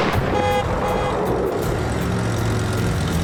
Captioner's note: horn honking; car backfires